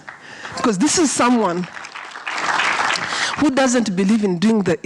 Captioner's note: audience applause